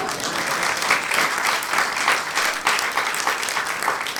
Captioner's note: audience applauds